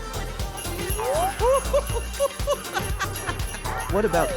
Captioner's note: snowman laughs